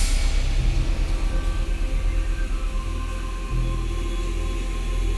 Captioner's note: water splashing